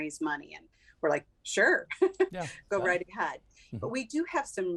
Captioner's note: chuckles